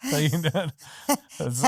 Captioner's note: laughing